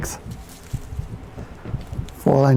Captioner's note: leaves rustle